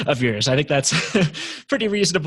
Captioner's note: laughs